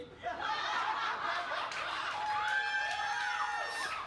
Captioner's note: audience laughs